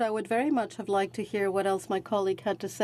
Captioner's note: speaking French